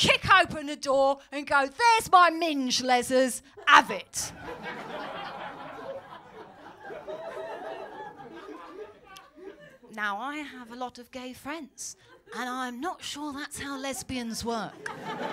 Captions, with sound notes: '...kick open the door and go, there’s my minge, lezzers.' 'Have it.’ [LAUGHTER] Now, I have a lot of gay friends, and I’m not sure that’s how lesbians work.